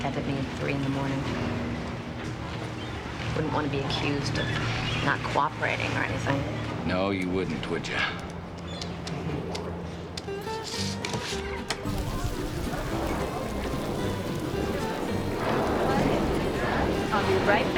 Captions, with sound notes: Last time, he contacted me at 3:00 in the morning. Wouldn't want to be accused of not cooperating or anything. - No, you wouldn't, would you? ■ (rain pattering and thunder rumbling)